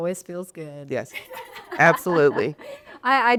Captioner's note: laughing